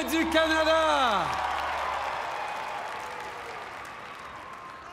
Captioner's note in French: Applaudissements